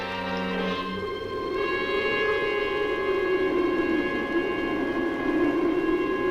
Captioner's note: dark music continues; wind howls